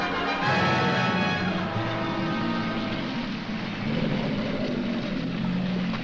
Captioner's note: growling